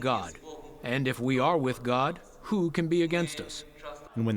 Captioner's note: through translator